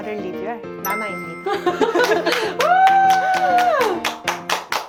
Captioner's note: sentimental sfx